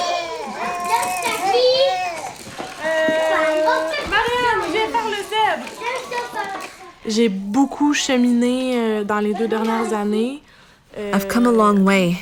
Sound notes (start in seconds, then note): 0.1 speaking French; 1.8 child giggling, speaking French